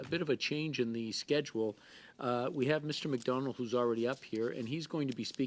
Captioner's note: speaking French